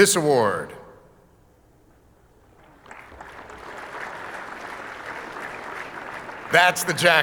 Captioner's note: audience applauding